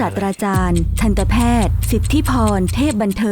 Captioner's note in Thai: เสียงนาฬิกา